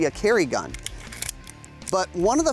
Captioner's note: magazine clicks into place